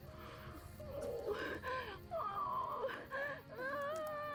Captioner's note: crying